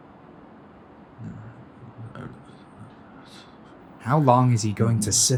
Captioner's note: tarkov muttering to himself in his bed